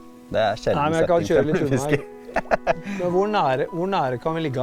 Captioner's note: giggle